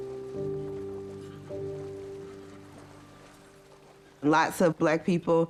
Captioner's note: waves rippling; ducks calling